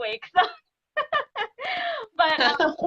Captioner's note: laughing